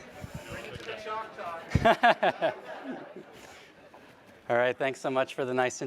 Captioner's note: laughs